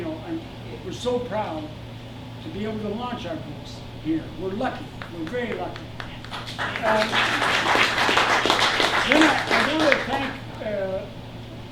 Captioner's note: applause